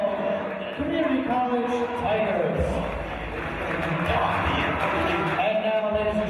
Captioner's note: applause and cheers